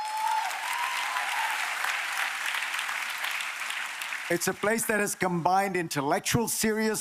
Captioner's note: applause